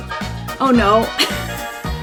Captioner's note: laughs